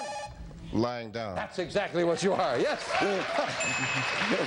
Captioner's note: laughing